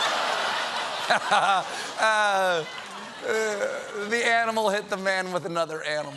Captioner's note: laughter